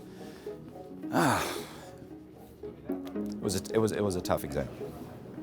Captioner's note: sighs